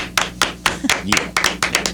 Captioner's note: clapping